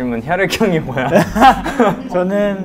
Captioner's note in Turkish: Gülüşmeler